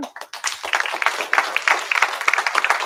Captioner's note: applause